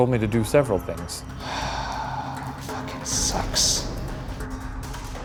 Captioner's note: sighs